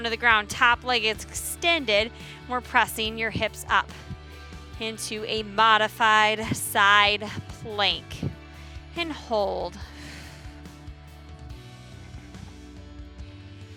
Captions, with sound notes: to the ground. Top leg extended. We're pressing your hips up into a modified side plank. And hold. (exhales) (upbeat music continues)